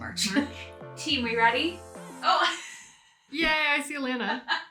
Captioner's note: laughs; laughs